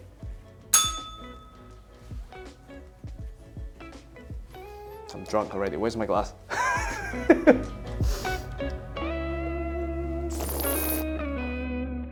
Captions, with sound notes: [bell rings] I'm drunk already. Where's my glass? [laughter] [slurps]